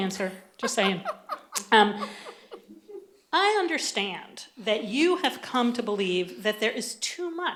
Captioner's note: laughter